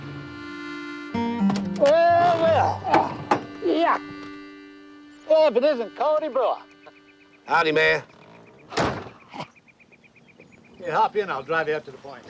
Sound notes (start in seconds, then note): 3.0 grunting; 6.2 chuckling